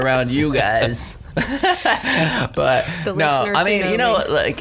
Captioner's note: laughs